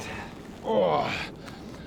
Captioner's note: 30+ groan